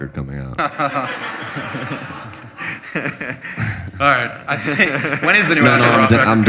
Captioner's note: laughter